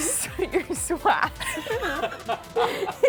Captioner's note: both laughing